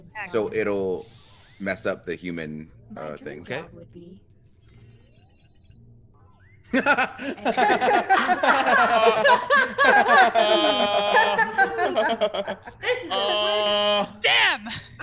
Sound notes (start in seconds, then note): 6.7 laugh